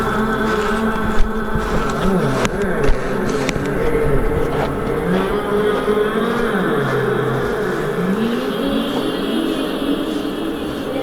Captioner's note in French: gémissement